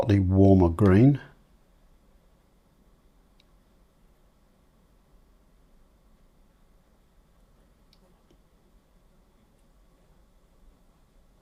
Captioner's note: silence